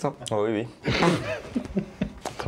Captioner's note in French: rire